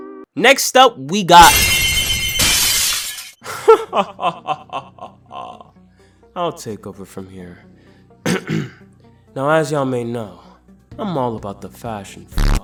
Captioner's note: ahem